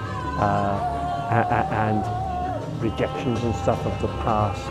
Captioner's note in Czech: nějaký muž vykřikuje